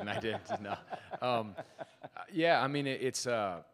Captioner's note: laughs